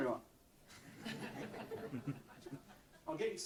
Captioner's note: audience laughs